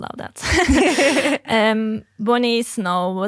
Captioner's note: group laughing